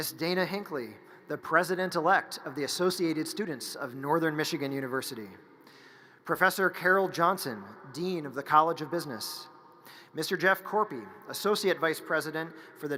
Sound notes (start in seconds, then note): none